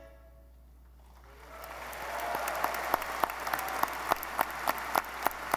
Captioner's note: audience applauding